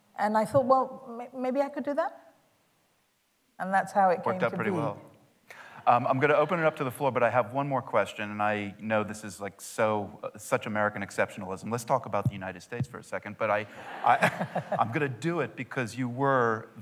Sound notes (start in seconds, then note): 13.8 laughter